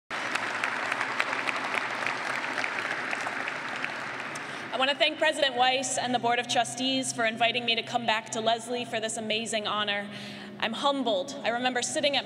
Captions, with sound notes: [clapping] I wanna thank President Weiss and the Board of Trustees for inviting me to come back to Lesley for this amazing honor. I'm humbled. I remember sitting at